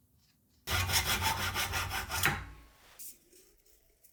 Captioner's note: sawing